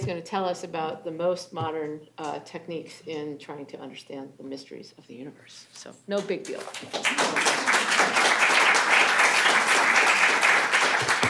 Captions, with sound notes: going to tell us about the most modern techniques in trying to understand the mysteries of the universe. So, no big deal. [APPLAUSE]